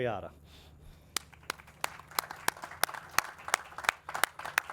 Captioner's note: audience and clap